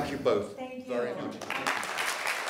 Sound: applause

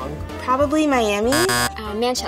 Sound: buzzer buzzing

